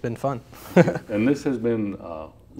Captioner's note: laughs